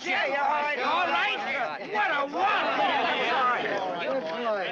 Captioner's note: commotion